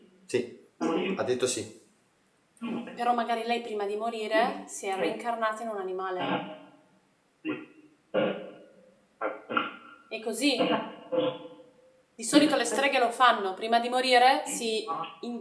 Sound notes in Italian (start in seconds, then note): 9.2 schiarire la voce